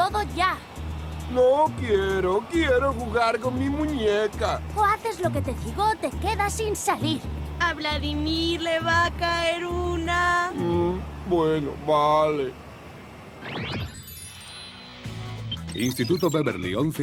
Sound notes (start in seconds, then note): 8.1 sing-song